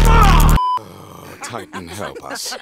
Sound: groaning

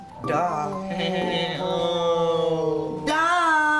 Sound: fake laughs

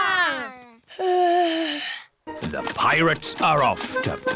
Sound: yawns

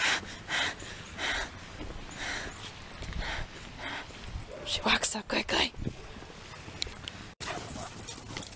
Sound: heavy breathing

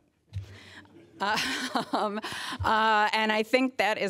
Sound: laughter

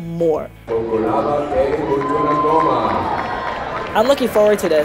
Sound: applause

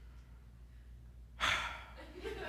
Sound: sigh

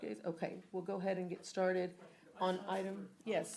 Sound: off mic

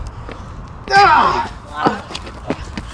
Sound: yells

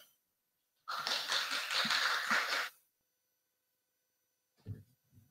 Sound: audience applauds

